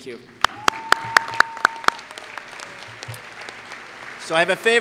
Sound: applause

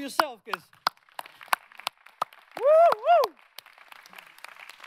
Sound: audience applauding

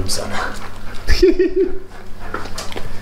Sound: laughs

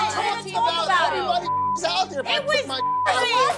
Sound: beep

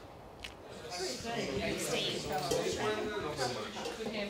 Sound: group chattering

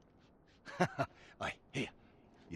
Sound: laughs

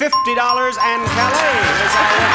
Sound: bell dinging

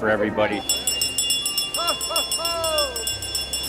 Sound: bell ringing

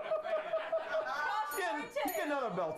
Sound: laughter; bell Rings

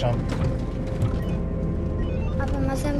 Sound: GPS beeping

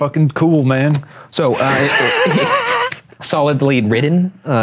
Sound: wheezing

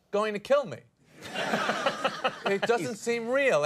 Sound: Conan and audience laugh

